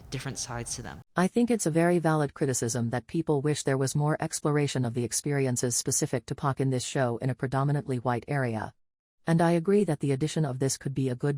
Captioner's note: robot voice